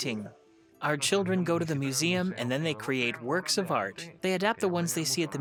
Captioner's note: speaks foreign language